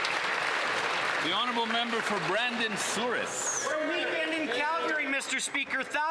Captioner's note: some Applause